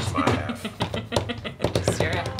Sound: woman laughs

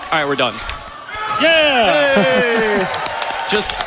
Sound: audience cheers

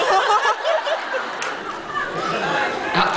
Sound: laughs

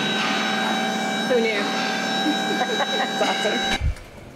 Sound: laughs

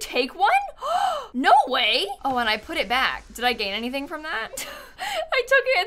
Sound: gasps

